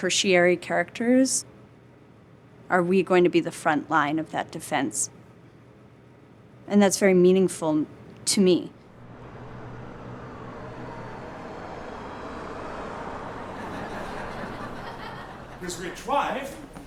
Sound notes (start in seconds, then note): 13.5 laughter